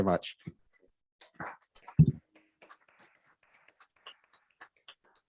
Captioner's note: council members clapping